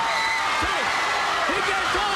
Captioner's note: crowd cheering